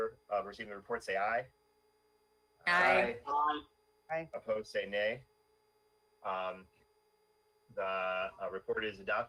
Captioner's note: in Unison